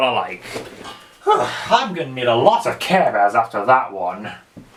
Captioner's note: sighs